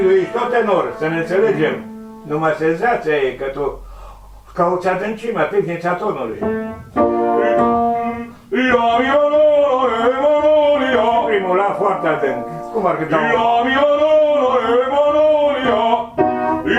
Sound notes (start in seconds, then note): 3.7 take a very deep, low breath